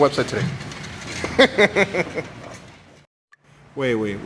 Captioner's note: laughs